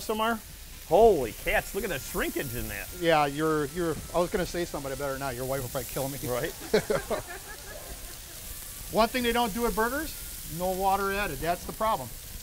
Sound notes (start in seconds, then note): 6.3 laughing